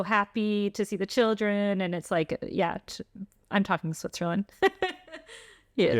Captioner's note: laughter